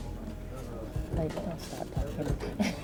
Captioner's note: laughs